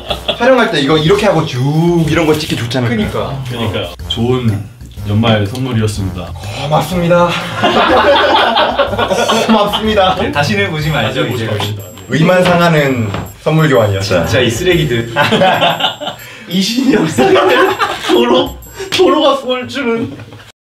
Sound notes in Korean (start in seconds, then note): 7.2 멤버들 웃음소리; 15.0 웃음소리